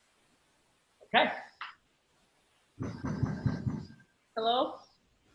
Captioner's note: banging on door